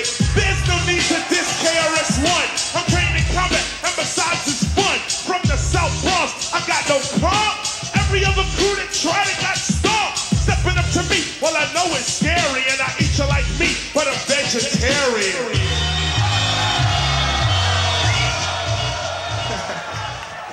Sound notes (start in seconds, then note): 14.8 audience cheers